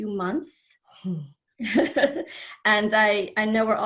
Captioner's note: laughs